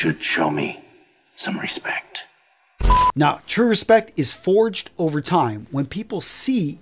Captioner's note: sound effect